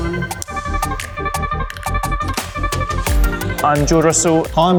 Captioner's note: upbeat music; clapperboard claps